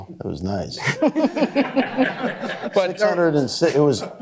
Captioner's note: laughter